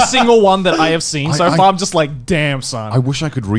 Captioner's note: laughs